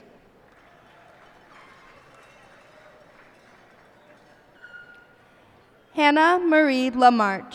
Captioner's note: cheers and applause